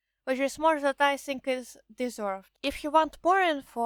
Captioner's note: none